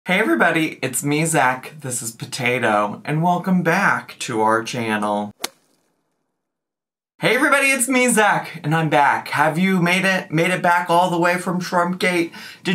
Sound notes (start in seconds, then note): 5.4 stick whacks